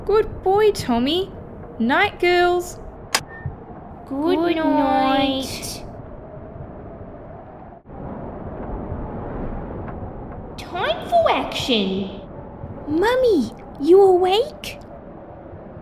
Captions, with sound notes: Good boy, Tommy! Night girls (Click!) Goodnight... Time for action! Mummy, you awake?